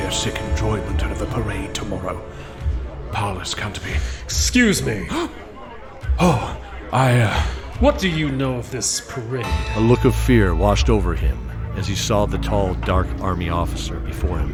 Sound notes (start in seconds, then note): 4.3 interrupting them in a deep commanding tone; 7.3 gasp